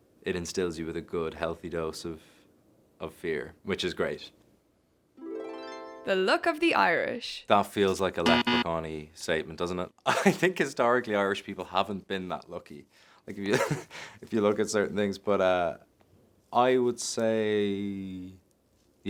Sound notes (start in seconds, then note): 5.2 chiming music; 8.2 buzzer buzzes; 13.5 laughs